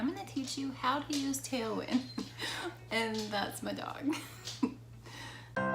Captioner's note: laughs